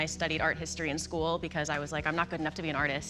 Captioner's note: none